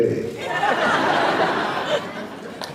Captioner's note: laughs